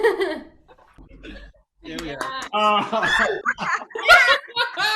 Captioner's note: attendees laughing